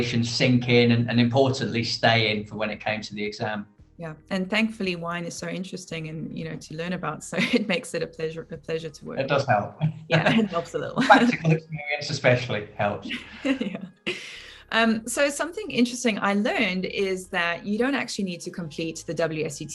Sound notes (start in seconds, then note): 11.7 laughing